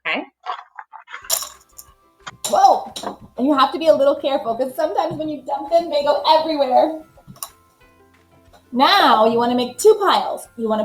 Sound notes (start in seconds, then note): 0.5 counters rattling